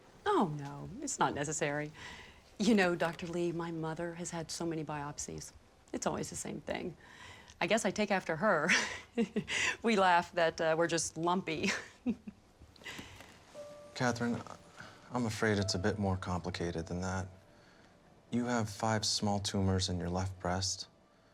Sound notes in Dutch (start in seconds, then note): 11.6 lacht